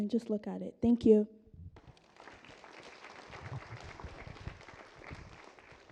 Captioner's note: applause